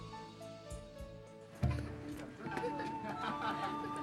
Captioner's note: children laughing